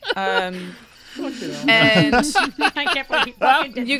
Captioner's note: laughter